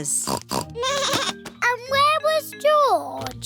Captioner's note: snorts; bleats